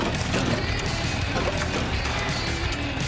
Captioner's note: motor rumbling